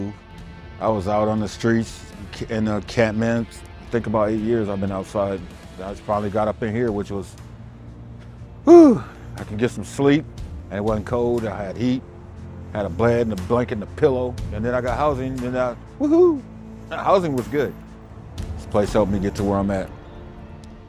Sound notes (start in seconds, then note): 8.6 sigh